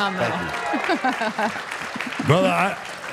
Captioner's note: Michelle laughs